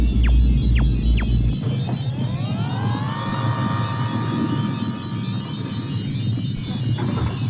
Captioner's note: machinery thrumming; computers beeping